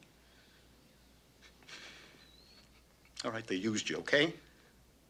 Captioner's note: whimpers